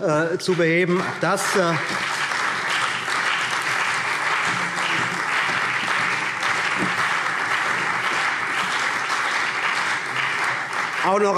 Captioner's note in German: Beifall